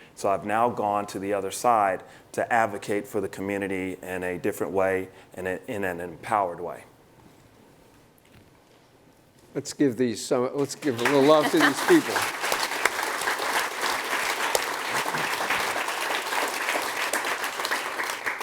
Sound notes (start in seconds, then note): 12.5 applause